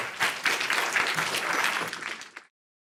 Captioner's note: applause